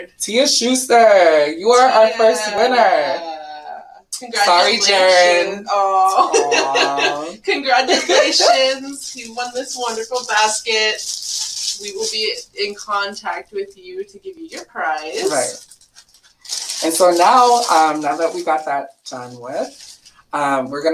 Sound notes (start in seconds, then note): 4.2 laughs